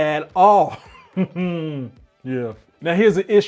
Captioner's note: chuckling